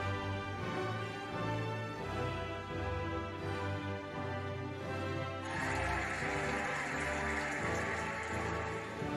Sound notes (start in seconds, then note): 5.4 cheering and applauding